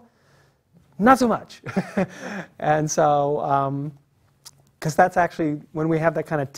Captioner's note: laugh